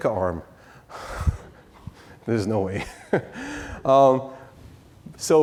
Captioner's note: laughs